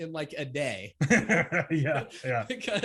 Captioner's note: laughs